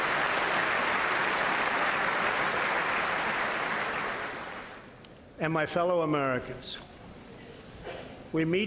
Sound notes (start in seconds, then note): 2.3 applause